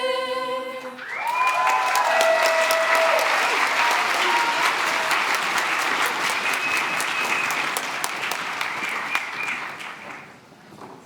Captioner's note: cheering and applause